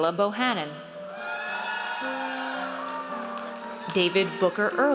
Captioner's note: audience cheers